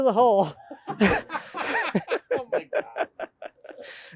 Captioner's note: laughing